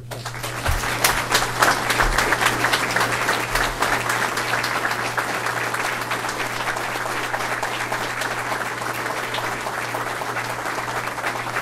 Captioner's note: applause